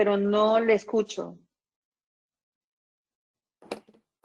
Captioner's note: silence